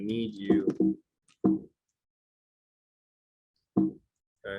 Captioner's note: computer beeps